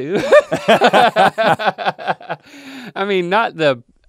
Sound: laughing

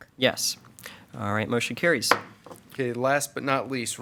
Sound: gavel pounds

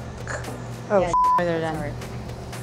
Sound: beep

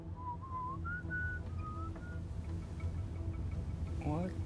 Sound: sailor whistling

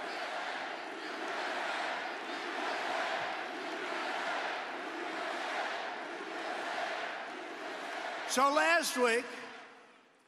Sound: cheers and applause

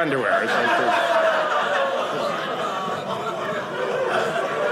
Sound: audience laughing

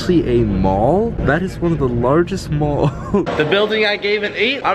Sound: laughs

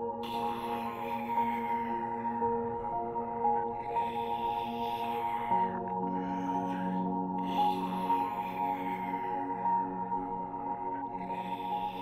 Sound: faint female zombie growls

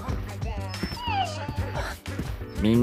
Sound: whine

